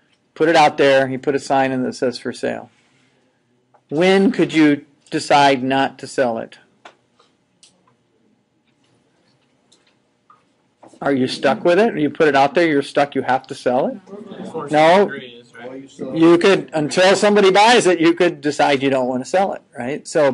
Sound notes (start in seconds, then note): 14.0 general chatter